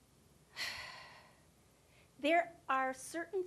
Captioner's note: sighing